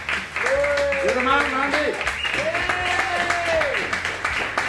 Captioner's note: crowd